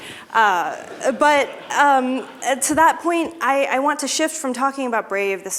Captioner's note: laughter